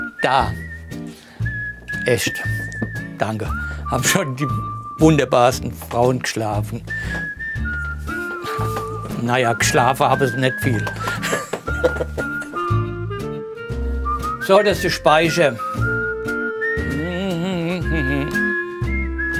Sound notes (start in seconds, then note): 11.5 rhythmic whistling music; 16.9 he hums happily to himself